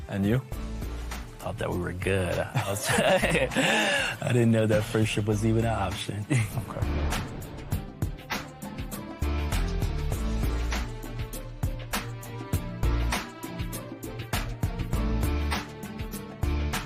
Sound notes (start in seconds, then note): 2.5 laughter; 6.5 laughs